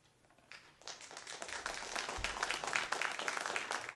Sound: clapping

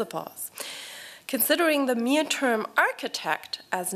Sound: none

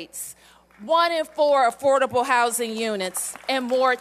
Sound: applause

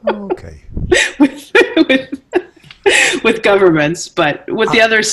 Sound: laughs

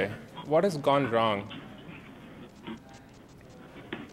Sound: microphone Static

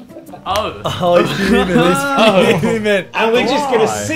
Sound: murmurs

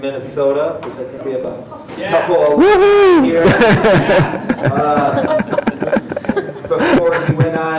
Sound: audience cheers and laughs

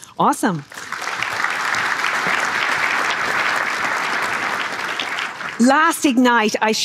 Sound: applause

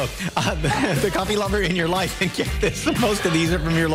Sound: laughter

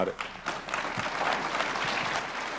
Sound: applause

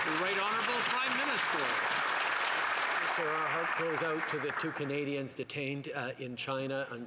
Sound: some Applause

